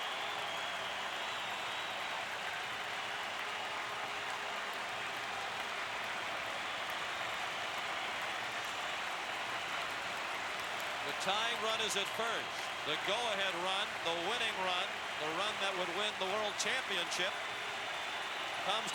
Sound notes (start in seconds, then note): 0.9 applause